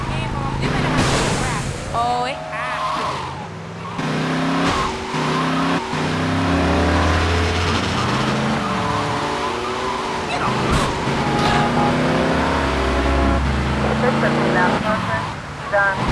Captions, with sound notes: Game on, give me the booty rack. Oh, it has to. (tires screeching) (engine revving) Get off me! (engine revving) This is a fast motion, you're done.